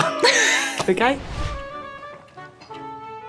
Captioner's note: both laughing; classical music continues